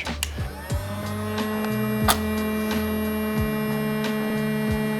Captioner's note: smoker humming